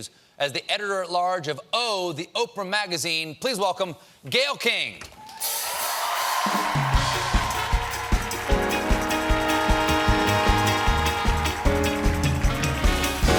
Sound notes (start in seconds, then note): 5.3 applause